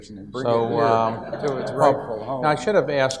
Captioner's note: audience laughs